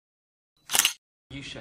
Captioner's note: photo snap